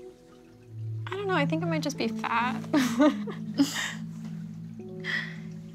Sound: laughs

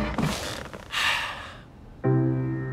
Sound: sighs

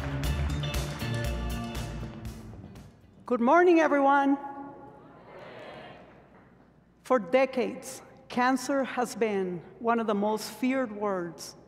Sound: applause

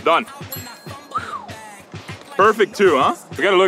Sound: exhaling

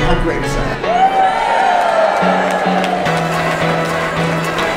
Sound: audience cheering

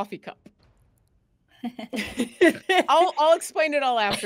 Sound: laughs

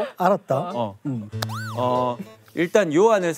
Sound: با ادب

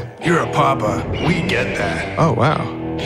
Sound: eagle cries

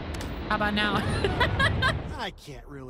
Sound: laughter

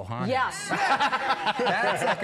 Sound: laughs

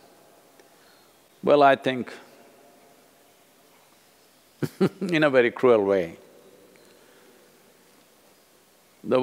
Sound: laughs

